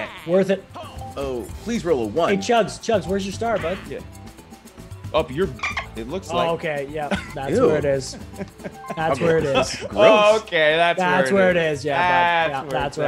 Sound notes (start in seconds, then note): 8.0 laugh